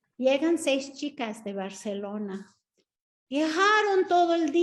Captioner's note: Sandra speaking Spanish